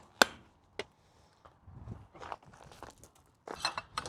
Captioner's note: snapping